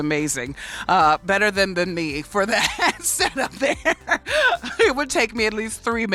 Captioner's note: laughs